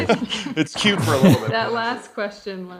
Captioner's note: laughs